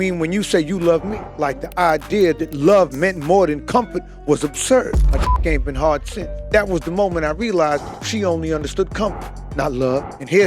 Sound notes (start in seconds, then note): 5.2 beep